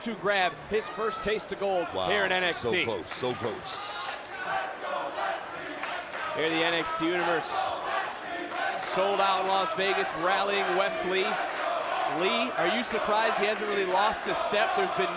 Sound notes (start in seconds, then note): 5.2 crowd chants